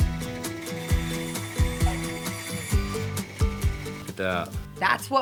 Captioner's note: sawing sound